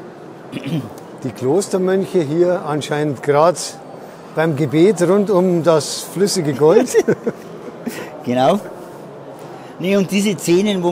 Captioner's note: laughs